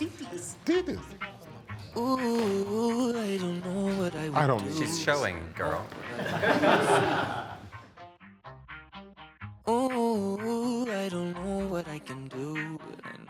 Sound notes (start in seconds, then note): 0.0 chuckling; 5.9 group chuckling; 7.6 gentle upbeat music